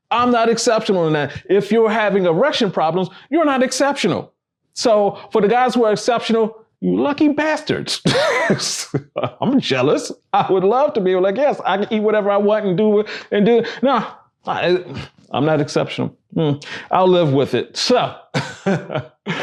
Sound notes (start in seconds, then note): 7.9 laughs